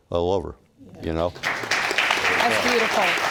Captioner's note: audience applauding